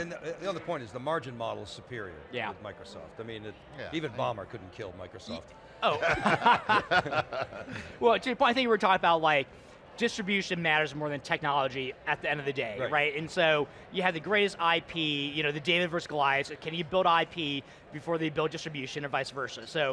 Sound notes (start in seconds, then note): 5.9 all laugh